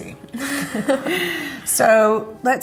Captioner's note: laughs